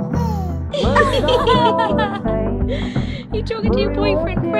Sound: laughing

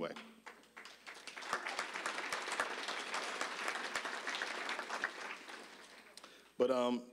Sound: applause

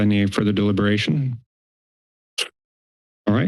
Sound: silence

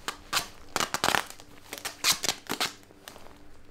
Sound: duct tape unravels

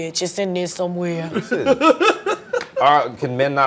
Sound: laughter

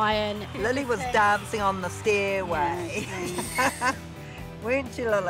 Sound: laughs

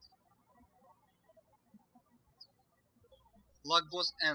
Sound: birds chirping

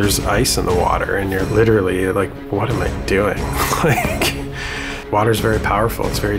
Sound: laughs

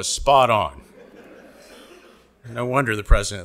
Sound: audience laughing

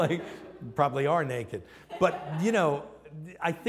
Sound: laughter

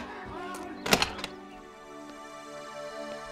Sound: door opening sound

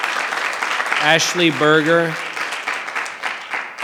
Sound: audience applause; audience applause continues

